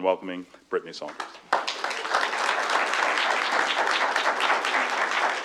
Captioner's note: applause